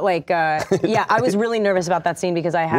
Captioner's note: Shia laughs